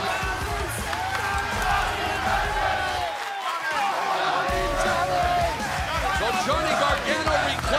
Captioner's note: crowd cheering